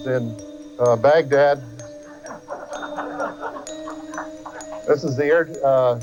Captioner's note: voyeurs laugh